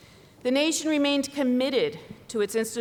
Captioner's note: none